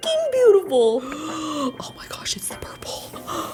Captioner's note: gasping